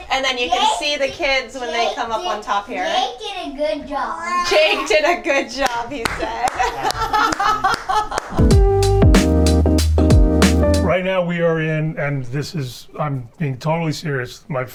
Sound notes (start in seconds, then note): 4.4 laughing; 8.3 groovy music